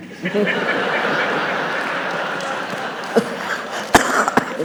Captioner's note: audience laughs